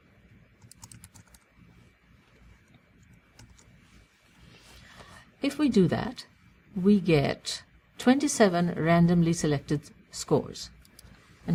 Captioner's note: pause